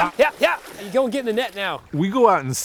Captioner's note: water splashing